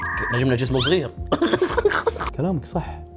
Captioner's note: laughs